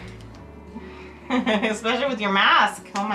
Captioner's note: laughs